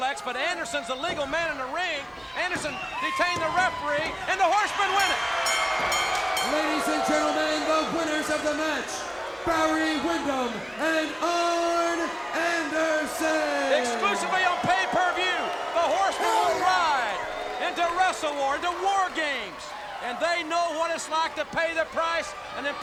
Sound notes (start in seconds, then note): 4.9 bell clanging